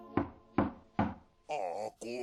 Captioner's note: door abuse starting